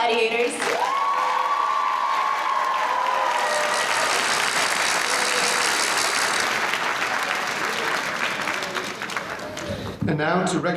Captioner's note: applause